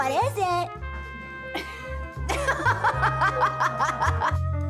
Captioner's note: molli laughs; laughs